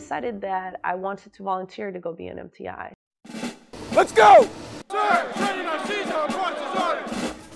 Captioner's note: recruits yelling